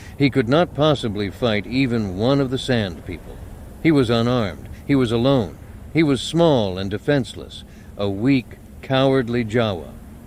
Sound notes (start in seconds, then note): none